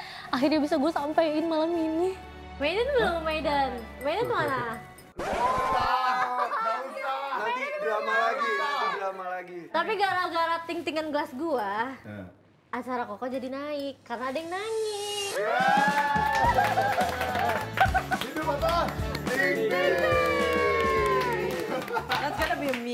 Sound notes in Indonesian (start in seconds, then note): 16.4 Ketawa